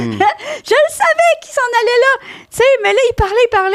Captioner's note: in french